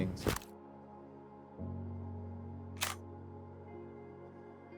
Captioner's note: camera shutter snaps